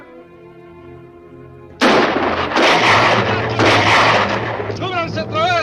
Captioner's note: tense orchestral music; guns fire; shouts in Spanish